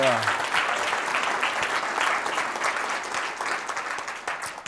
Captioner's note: applause